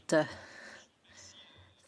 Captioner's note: speaking French